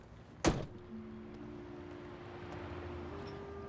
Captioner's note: door bangs